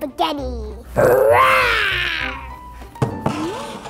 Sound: roars

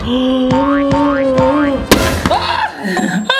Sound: gasping; screaming

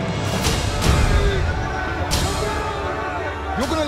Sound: dramatic music; people exclaiming

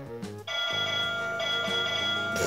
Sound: ping

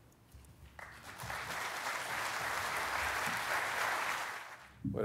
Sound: audience claps

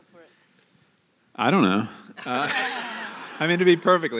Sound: laughter

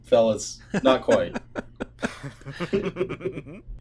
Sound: laughter

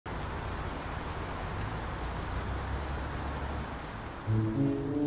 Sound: soft wind whooshing; soft music

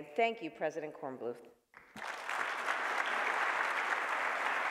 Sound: applause

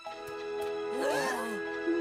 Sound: all gasp

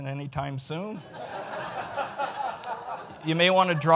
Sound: audience laughs

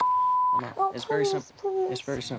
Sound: beep

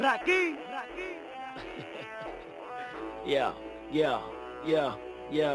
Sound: Jajaja

